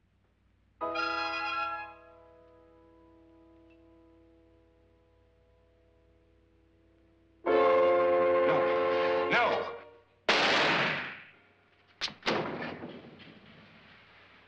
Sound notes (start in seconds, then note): 7.7 suspenseful music; 10.2 gunshot; 12.1 thump